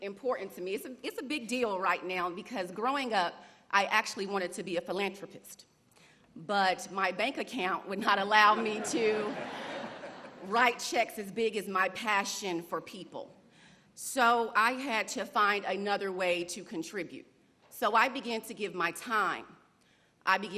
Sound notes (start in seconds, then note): 10.5 laughter